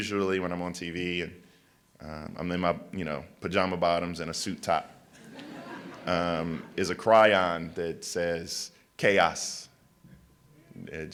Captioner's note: laughter